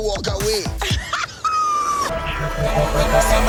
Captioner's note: laughing